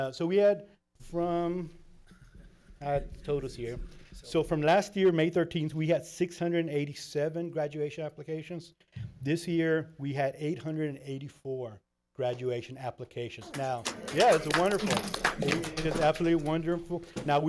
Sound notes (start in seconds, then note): 13.4 applauding